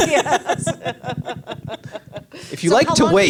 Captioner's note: all laugh